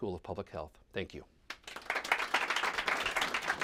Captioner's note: applause